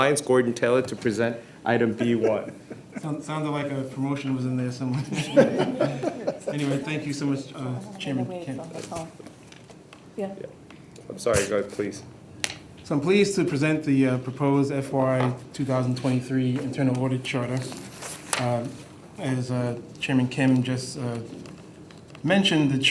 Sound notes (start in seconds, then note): 4.8 board members laughing